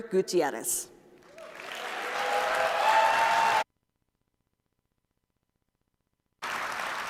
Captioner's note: applause